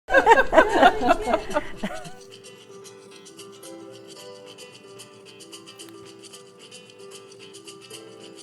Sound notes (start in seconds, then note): 0.3 laughing; 2.3 light upbeat music